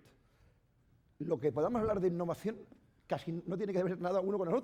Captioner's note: speaking spanish